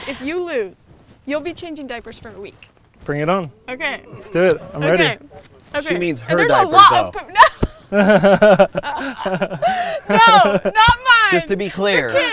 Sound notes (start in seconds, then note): 7.8 laughter